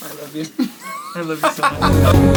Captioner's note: laughing; upbeat energetic music